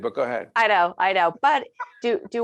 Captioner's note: laughing